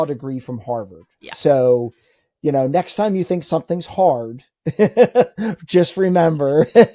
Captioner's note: laughs